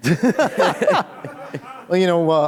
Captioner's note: laughter